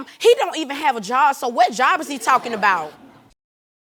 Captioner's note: audience laughing